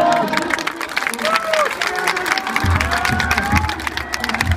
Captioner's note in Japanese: 拍手